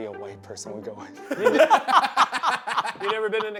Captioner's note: laugh